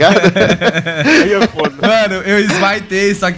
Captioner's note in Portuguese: risos